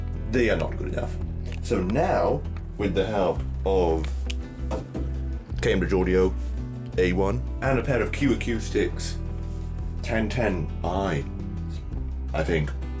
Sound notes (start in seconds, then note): 4.7 taps metal box